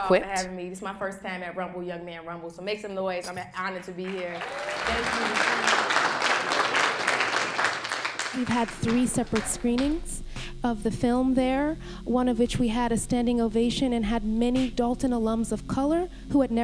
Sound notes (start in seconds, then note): 4.0 applause